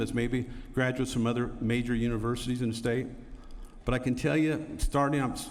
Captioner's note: none